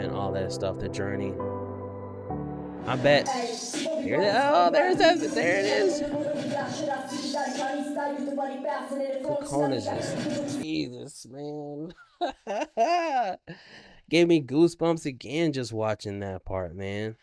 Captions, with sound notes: all that stuff, the journey. I bet, oh, there it is. There it is. (speaking in foreign language) The Kekona's just, Jesus man. (laughing) Gave me goosebumps again just watching that part, man.